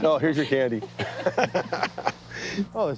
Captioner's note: both laughing